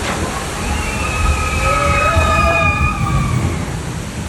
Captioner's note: screams